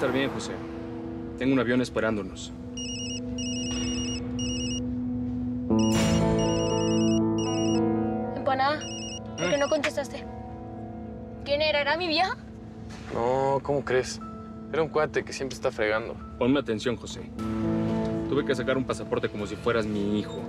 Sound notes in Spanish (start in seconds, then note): 5.7 suena un celular